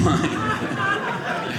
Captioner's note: audience laughing